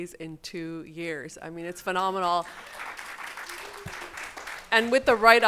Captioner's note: audience applauding